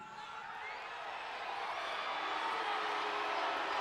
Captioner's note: audience cheering